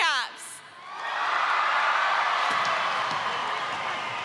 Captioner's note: audience cheering